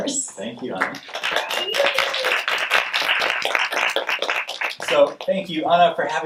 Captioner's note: audience clapping